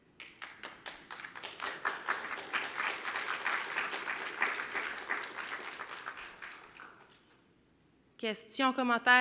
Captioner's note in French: applaudissements